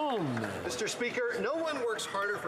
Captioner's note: some Applause